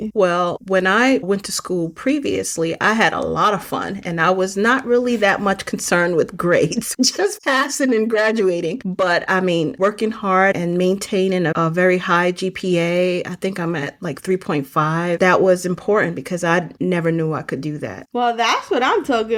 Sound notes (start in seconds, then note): 6.5 chuckling